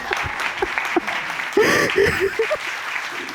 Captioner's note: crying